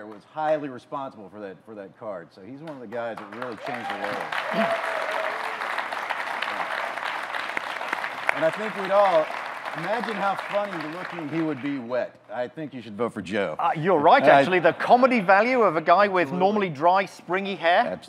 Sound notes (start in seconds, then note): 4.6 audience cheering, clapping